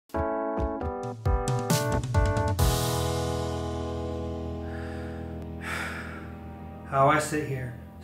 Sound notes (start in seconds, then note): 4.7 sad music; 5.6 sigh